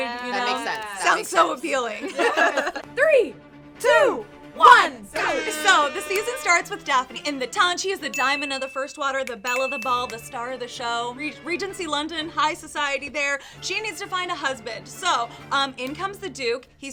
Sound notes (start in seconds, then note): 2.1 all laughing; 3.2 intense classical music; 9.7 fingers snapping